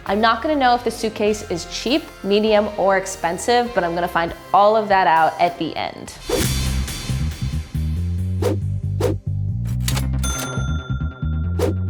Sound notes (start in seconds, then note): 6.3 upbeat music; 8.3 swoosh; 9.7 cash register ding; 11.6 swoosh